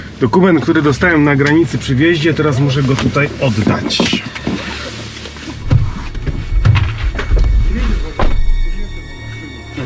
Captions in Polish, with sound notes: Dokument, który dostałem na granicy przy wjeździe, teraz muszę go tutaj oddać. (rozmowa w tle)